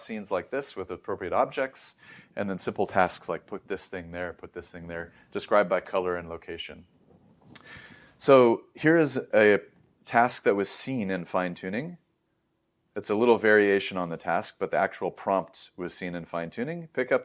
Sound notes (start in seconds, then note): 7.5 lips smack; 7.5 inhales